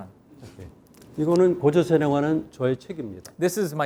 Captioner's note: speaking in Korean